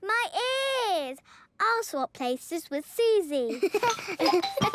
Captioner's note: laughter